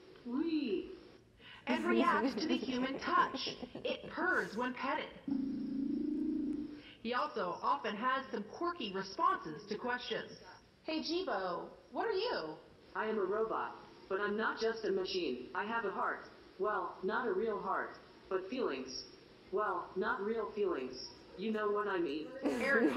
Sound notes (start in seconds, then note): 1.8 presenter laughs; 5.2 Jibo purrs